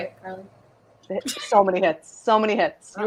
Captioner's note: laughs